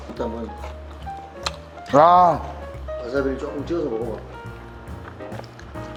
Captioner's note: wasabi squeezed